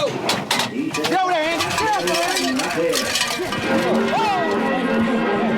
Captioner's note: bells clank